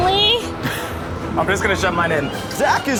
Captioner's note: chuckles